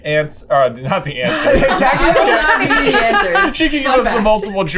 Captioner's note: laughter